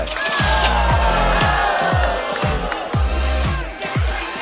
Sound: cheering

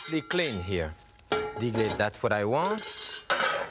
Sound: Jacques speaking in French

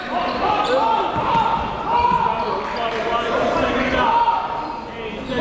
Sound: players yelling

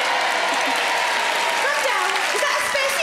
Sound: crowd cheer

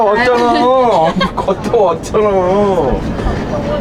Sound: laughing

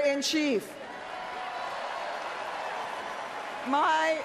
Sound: cheers

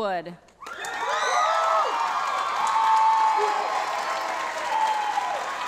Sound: audience enthusiastically cheering

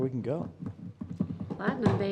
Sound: desk knocking

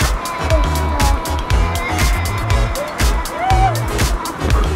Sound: shuddering

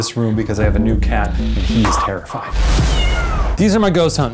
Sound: cat meowing

